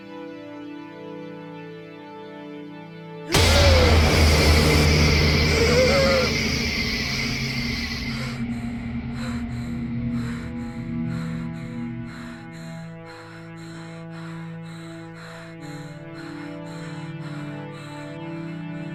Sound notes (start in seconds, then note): 3.0 intense music; 3.0 woman gasping; 6.9 woman breathes heavily